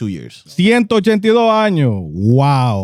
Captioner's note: speaking In Foreign Language